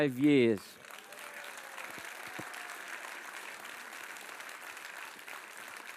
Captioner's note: audience applauds and cheers